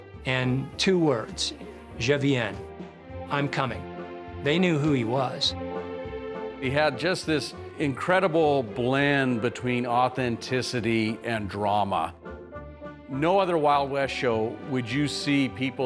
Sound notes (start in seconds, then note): none